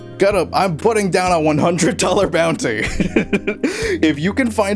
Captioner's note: chuckling